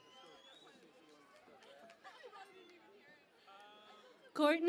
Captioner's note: cheering and Applause